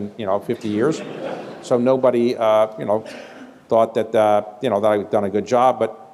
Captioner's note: laughter